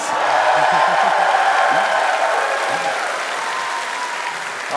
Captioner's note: cheers and applause